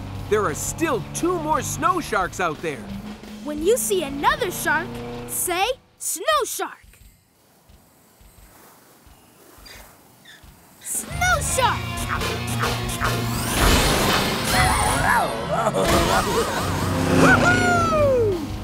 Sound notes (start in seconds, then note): 12.0 chomping; 15.2 giggling